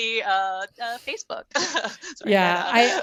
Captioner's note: laughs